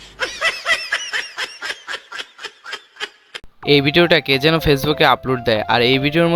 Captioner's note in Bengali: সশব্দ হাসি